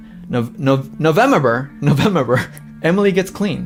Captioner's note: laughs